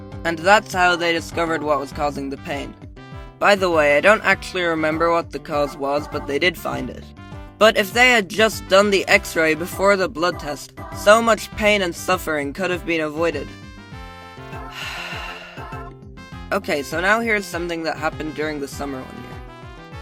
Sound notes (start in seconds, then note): 14.5 sighs